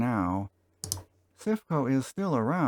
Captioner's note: click